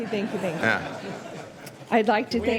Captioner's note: laughter